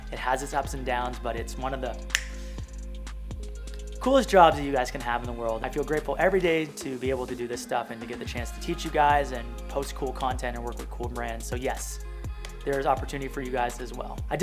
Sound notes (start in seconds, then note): 2.0 fingers snapping